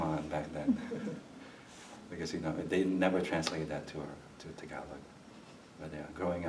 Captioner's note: laughs